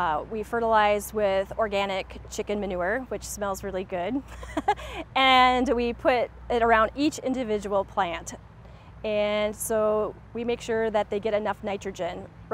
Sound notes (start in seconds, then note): 4.2 chuckles